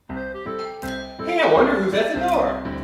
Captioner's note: fun music; ringing doorbell